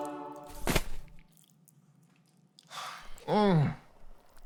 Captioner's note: banana thudding